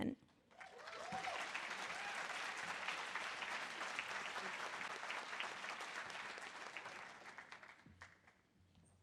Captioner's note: audience applause